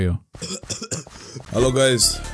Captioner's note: cough cough